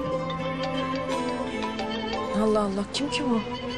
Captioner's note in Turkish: Telefon çalması